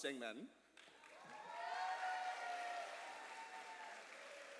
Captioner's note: cheers and applause